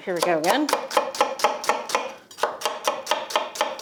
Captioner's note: knife chops